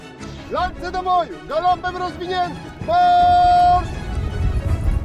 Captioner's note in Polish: krzyczy